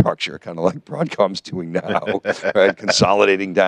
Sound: laughs

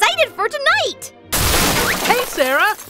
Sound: crash

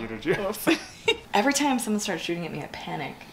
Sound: laughs

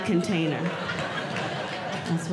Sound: audience Laughing

